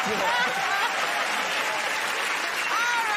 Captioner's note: laughter; cheers and applause